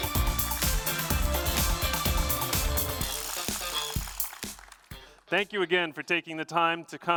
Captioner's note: applause